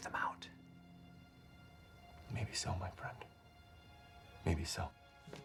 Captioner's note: whispers